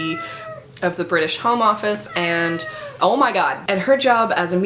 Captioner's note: cat meows